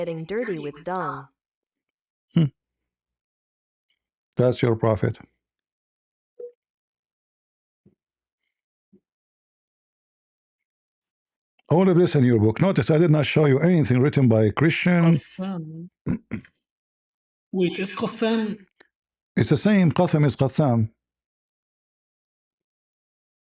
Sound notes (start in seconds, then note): 16.0 clears throat